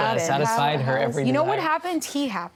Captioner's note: arguing